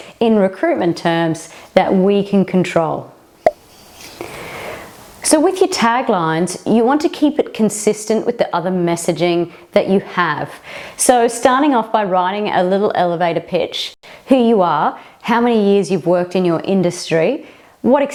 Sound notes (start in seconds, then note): 3.4 pop